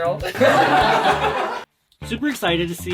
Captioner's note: laughter